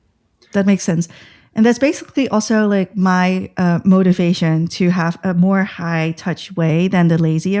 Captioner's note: uh